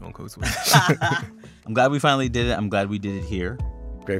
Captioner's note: laughter